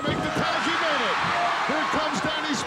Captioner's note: audience cheering